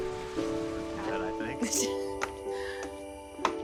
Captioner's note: chattering; footsteps